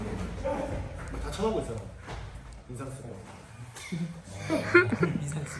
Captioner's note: students laugh